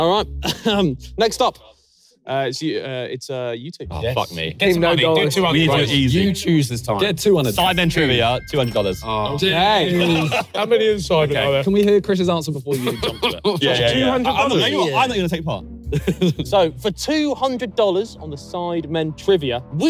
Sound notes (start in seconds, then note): 10.8 contestants chattering and laughing; 15.9 laughing